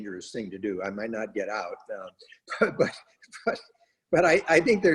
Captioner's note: laughs